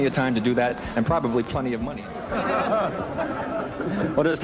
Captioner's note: laughter